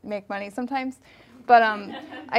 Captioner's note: audience laughing